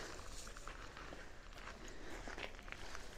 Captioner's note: none